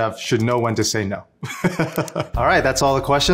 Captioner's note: laughs